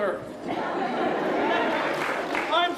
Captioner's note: crowd laughing and applauding